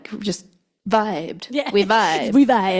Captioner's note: laughs